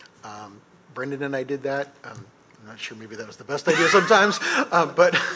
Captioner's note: laughter